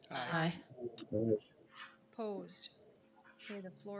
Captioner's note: speaking faintly